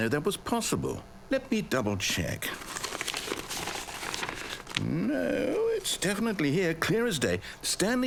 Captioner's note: pages turning